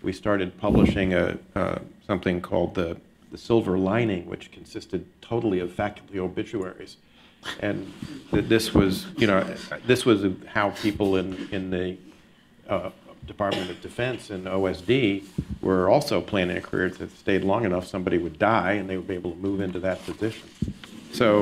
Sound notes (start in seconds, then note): 8.8 chuckles